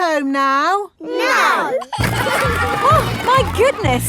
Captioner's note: giggling